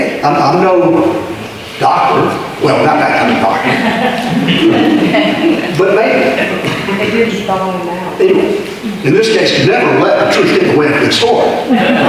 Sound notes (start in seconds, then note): 2.9 audience laughter